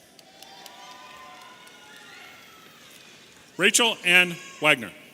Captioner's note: audience cheering